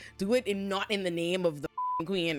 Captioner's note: beep